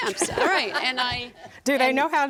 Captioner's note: audience laughs